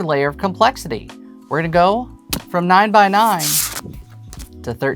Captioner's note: boards rustling